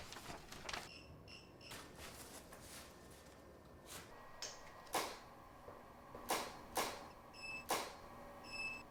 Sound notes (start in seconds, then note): 4.6 shutter clicking